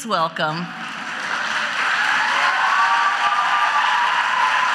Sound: audience cheers

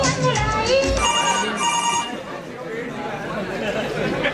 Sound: phone Rings

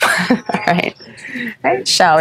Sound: chuckles

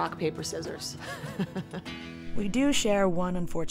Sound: laughs

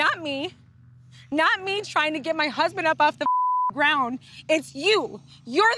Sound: beep

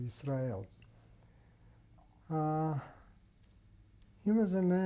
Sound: pauses for 3 seconds

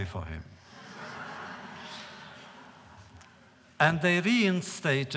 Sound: laughter

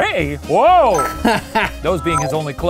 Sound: laughing

